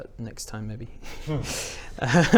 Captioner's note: nervous laughs